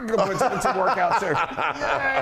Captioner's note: laugh